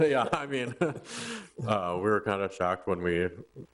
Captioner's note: both laugh